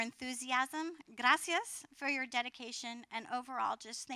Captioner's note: foreign language